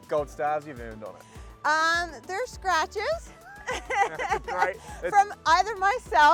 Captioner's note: laughs